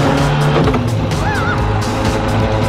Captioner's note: screams